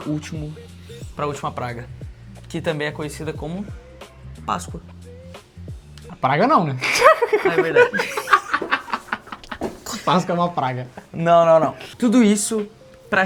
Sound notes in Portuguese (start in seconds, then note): 6.8 risadas